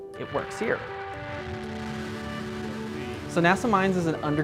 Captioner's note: rocket launching